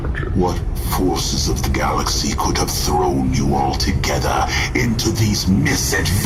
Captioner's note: growling